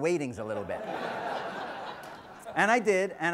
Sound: audience laughs

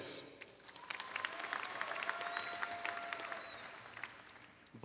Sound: applause

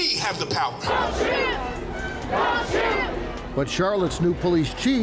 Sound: crowd

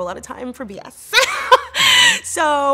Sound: laughs

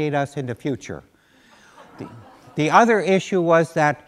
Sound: laughter

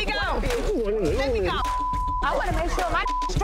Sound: beep

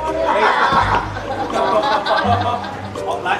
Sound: lots of laughs

